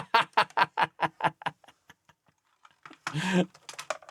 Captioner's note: laughs